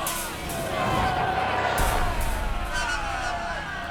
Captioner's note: cheering